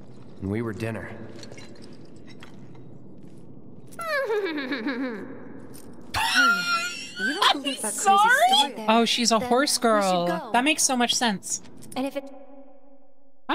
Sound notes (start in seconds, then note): 4.0 Aerith Whinnies Like A Horse; 6.1 laughter